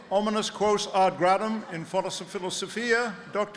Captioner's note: speaking latin